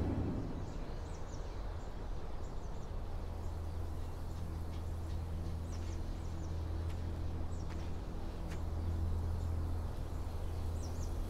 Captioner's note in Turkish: Kuş sesleri